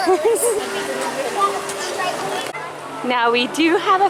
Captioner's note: laughing